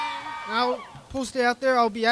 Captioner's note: crowd cheers